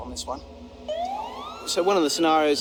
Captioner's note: police Siren